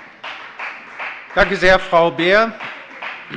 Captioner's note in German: Beifall bei der FDP